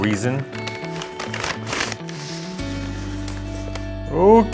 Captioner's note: bag rustling